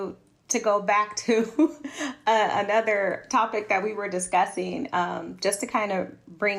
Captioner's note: laughter